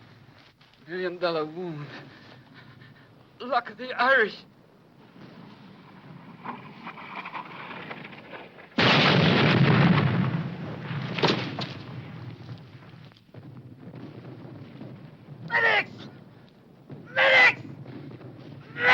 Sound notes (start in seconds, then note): 6.2 wind rustling; 8.7 bomb exploding